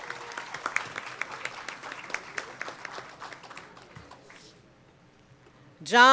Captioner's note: applause